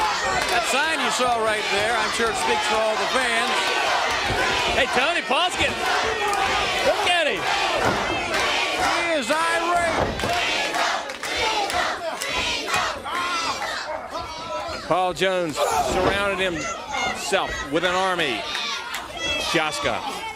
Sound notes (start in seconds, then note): 0.1 crowd cheering; 5.9 crowd cheering; 9.9 crowd chatter